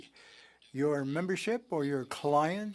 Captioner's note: speaking french